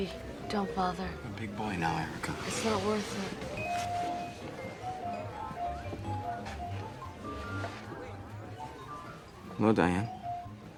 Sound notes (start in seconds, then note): 5.0 buoyant music; 5.0 patrons chatter